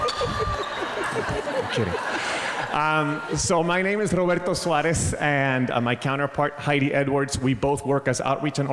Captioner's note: crowd laughs